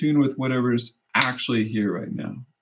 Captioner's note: snap